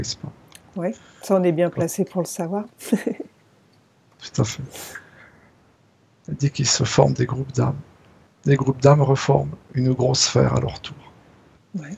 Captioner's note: laughs